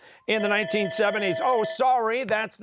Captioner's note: bell ringing